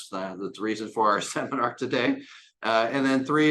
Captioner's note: chuckles